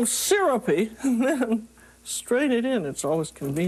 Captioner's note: chuckles